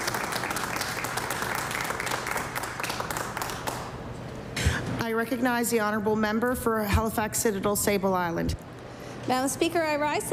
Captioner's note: applause